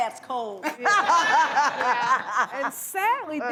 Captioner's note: laughter